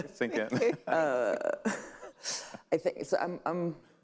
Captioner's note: all laughing